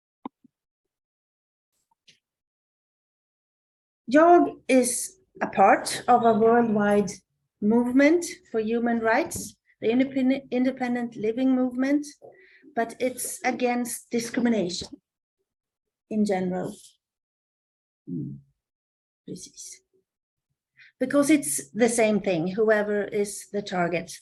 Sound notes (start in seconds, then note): 16.8 Swedish